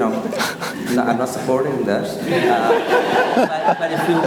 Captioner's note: all laugh